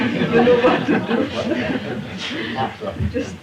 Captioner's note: laughter